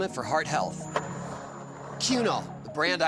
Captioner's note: skateboard wheels roaring